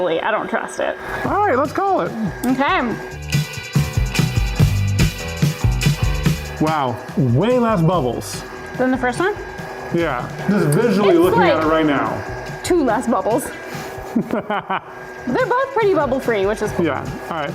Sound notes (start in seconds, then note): 14.0 laughs